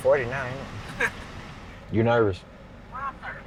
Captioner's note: chuckles